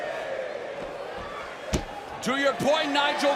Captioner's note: crowd cheering